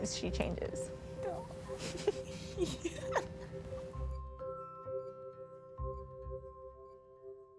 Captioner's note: laugh